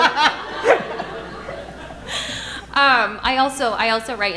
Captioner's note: audience laughing